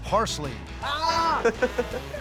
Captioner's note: laughter